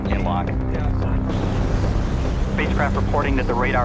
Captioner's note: air whooshing